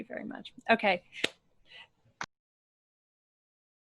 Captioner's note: claps